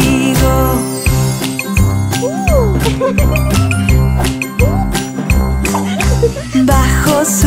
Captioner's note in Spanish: Música Alegre; Risas